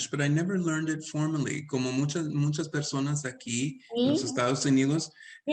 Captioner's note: speaking Spanish